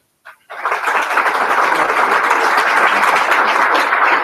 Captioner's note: applause